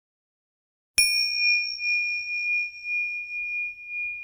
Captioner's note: bell chimes